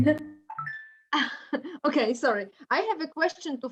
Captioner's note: laughs